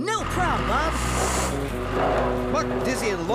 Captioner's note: engines Revving